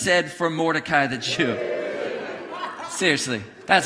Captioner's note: congregation cheering and laughing